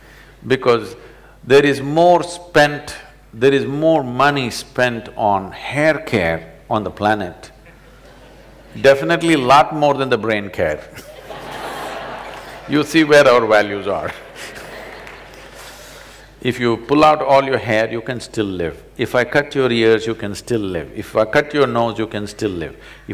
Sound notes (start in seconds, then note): 10.9 laughter; 13.7 laughs